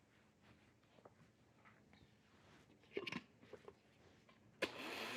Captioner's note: blender whirring